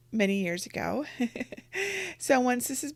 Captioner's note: laughs